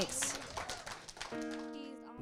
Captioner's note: audience clapping; emotional music